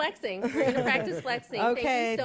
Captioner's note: laughter